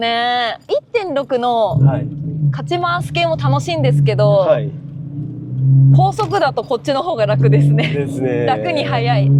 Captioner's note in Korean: 엔진